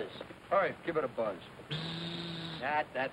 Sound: raspberry

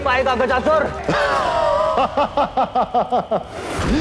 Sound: laughs

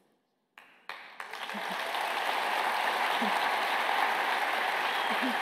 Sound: applause

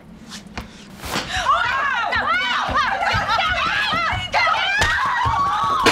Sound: lots of commotion and shouting

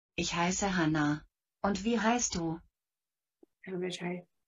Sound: speaking German

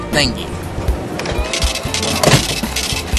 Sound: cha-Ching!; cash Register Running

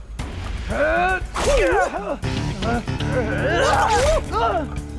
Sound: grunting

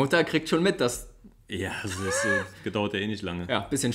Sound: laughs

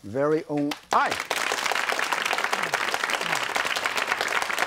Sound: audience claps

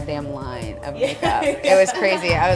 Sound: laughs

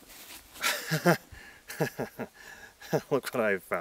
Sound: nervous laugh

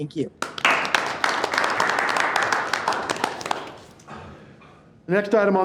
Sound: board members clapping

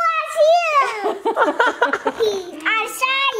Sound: laugh

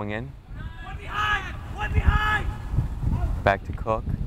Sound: players talking and yelling

